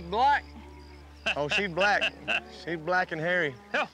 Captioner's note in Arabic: يضحك